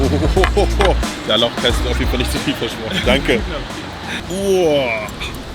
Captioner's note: speaks in German